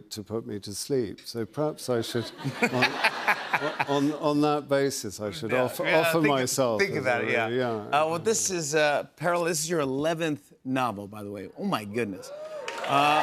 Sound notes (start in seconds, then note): 2.4 laughs